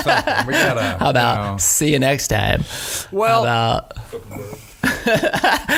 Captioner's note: laughing